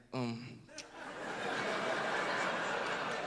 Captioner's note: laughter